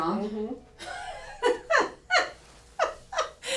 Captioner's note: laughter